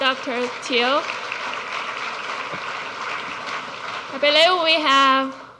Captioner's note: audience clapping